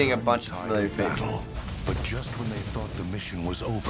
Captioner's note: voice-over